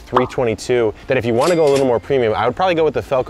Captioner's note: cash register rings